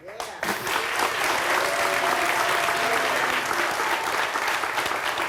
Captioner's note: audience clapping